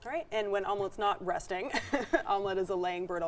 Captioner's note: chuckles